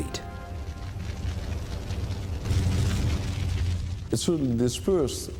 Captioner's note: fire crackling